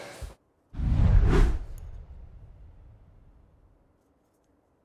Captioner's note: air whooshes